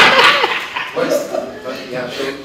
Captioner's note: laughter